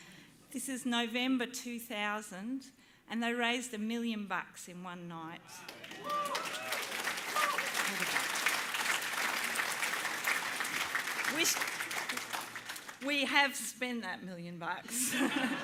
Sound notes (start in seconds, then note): 5.6 cheering, applause